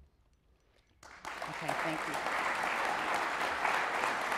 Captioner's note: audience applauds